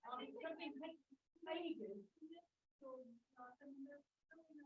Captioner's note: people chattering